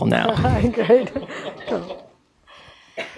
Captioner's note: laughing